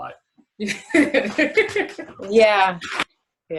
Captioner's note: laughter